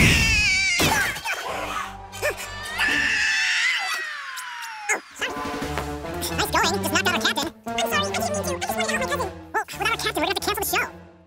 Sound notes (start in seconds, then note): 2.2 screaming; 6.1 speaking fast forward